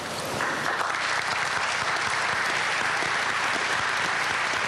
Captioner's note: applause